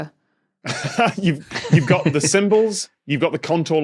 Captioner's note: laughs